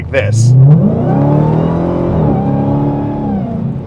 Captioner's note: revs engine